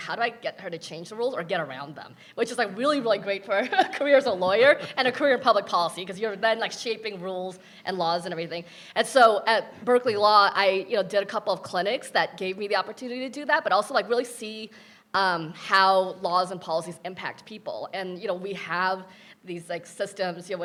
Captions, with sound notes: how do I get her to change the rules or get around them? Which is like really, really great for (laughing) a career as a lawyer. (panelist chuckling) And a career in public policy, 'cause you're then like shaping rules and laws, and everything. And so, at Berkeley Law, I did a couple of clinics that gave me the opportunity to do that, but also like really see how laws and policies impact people, and we have these, like systems,